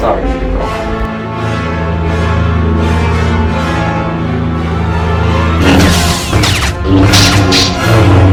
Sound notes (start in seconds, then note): 5.6 blades clash